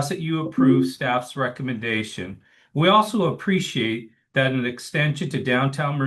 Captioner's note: notification sound